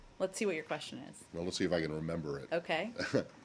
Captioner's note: laughter